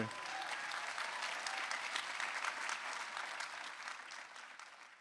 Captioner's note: audience applauding